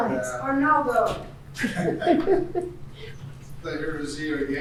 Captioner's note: laughing